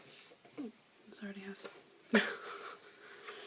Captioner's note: laugh